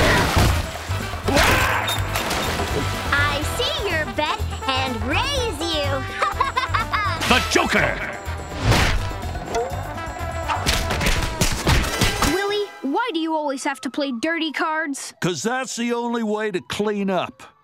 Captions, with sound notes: [screaming] I see your bet and raise you. [laughing] Willie, why do you always have to play dirty cards? Cause that's the only way to clean up.